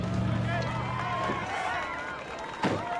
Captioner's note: crowd cheering